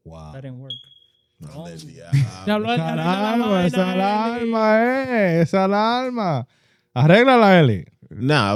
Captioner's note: speaking In Foreign Language